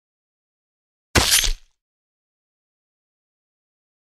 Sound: sound of saber cut

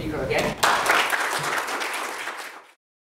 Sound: applause

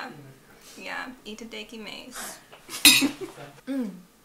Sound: American accent

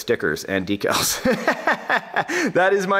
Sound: instructor laughs

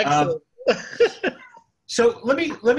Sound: laughing

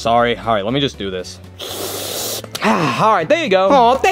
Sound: sipping

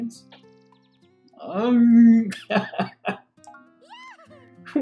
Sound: chuckles

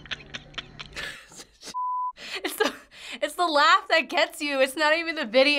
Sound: cackling; chuckles

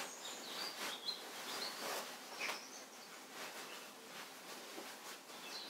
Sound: birdsong from outside

